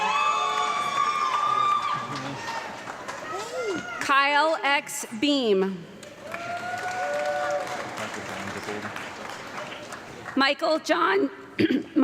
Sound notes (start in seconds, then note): 0.0 audience clapping and loud screaming; 6.0 audience clapping and cheering